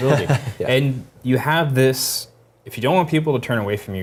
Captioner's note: laugh